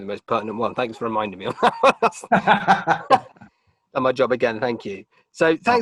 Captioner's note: both laughing